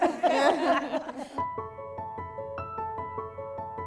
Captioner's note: laughter